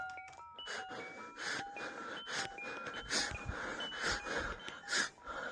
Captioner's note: starts Breathing Heavily